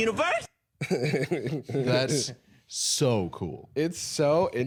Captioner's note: chuckling